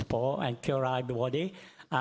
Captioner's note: speaks in foreign language